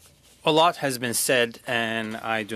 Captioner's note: speaking French